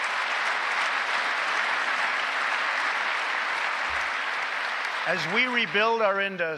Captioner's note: applause